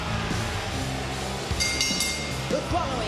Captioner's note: bell ringing